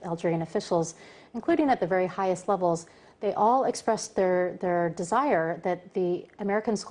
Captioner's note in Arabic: تتحدث الإنجليزية